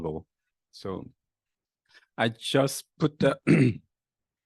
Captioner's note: clears throat